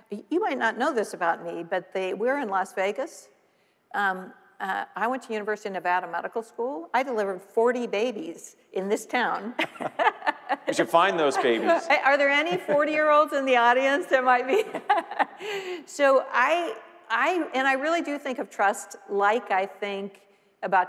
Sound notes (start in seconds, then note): 9.5 laughing; 14.4 laughing